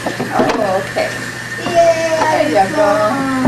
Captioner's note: sink running